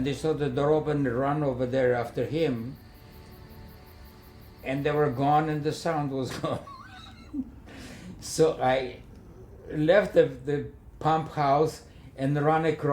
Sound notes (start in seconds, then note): 2.6 crickets chirping; 6.9 laughing